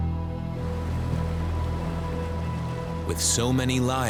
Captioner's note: bubbling